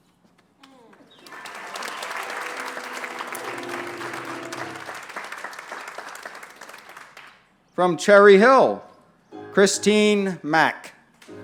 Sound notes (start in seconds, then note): 0.7 applause; 11.2 applause